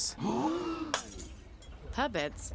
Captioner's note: group gasping; glass breaking